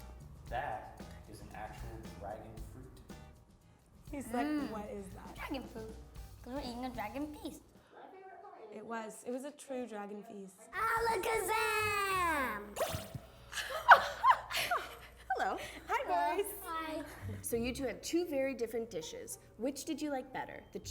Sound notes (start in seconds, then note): 12.8 pops; 13.5 laughing